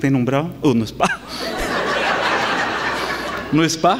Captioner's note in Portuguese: Gargalhadas